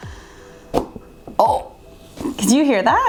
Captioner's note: knife thudding